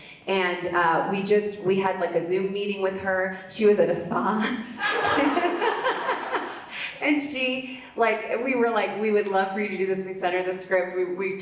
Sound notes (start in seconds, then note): 4.8 audience laughs; 4.8 laughs